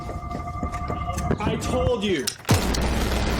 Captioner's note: gunshot